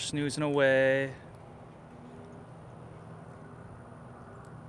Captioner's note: breeze blowing